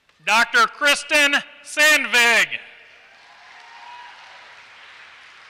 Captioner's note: applause